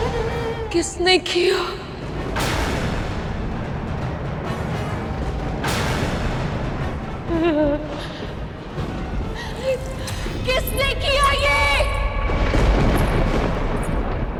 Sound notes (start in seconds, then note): 7.3 sobs; 10.8 thundering